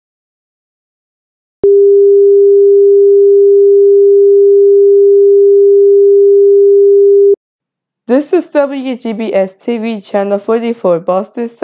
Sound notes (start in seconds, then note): 1.5 beep